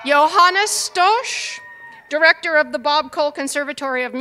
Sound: cheers and applause

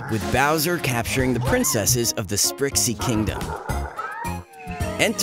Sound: funky synth music; Bowser laughing menacingly

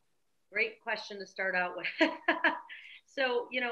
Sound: laughs

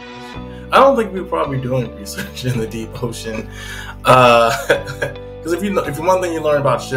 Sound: laughs

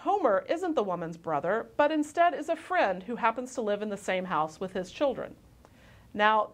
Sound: click

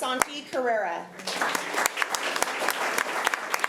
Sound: applause

